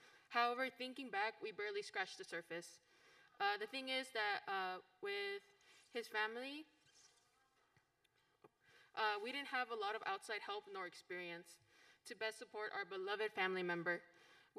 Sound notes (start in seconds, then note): none